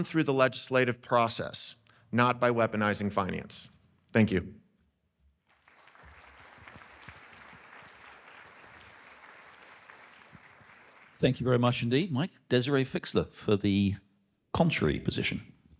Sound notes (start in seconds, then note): 5.4 audience clapping